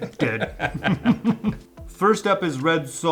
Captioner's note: laughs